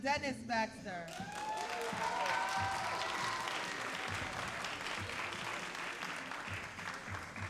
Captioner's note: all applauding and cheering